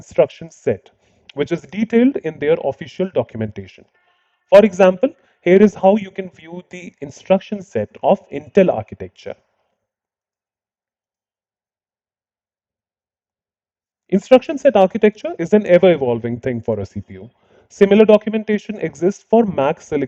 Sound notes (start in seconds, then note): 9.7 silence